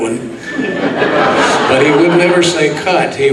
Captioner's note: audience laughs